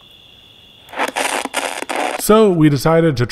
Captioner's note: static crackling